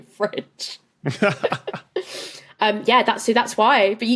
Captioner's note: chuckles; giggles